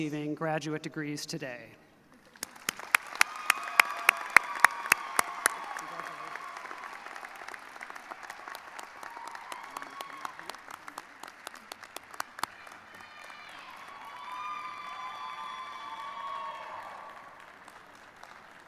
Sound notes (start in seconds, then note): 9.0 applause; 17.3 cheers and applause